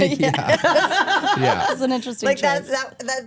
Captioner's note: laughing